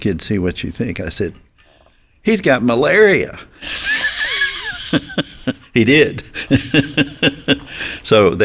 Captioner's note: chuckles